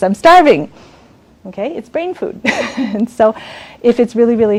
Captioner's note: laughs